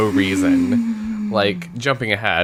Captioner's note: sighs